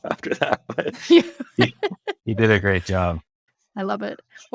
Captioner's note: laughs